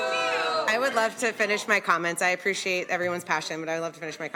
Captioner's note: loud booing